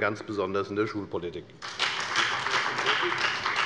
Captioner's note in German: Beifall bei der FDP und bei Abgeordneten der SPD